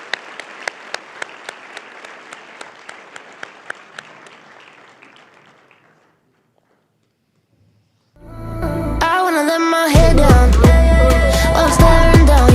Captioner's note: applause